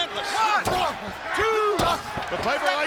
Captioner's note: fists thudding